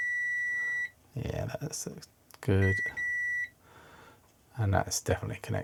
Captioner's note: beeping